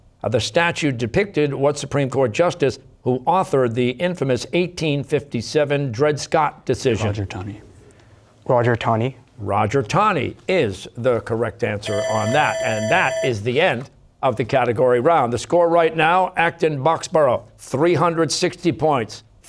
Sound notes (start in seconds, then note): 7.9 whispering; 11.8 bell ringing